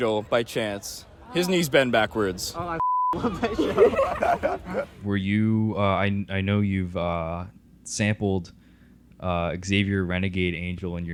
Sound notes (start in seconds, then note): 3.2 laughing